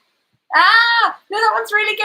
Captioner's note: screams